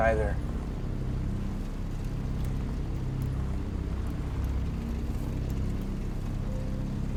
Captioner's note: suspenseful music continues; vehicle droning